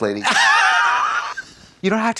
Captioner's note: Katya hisses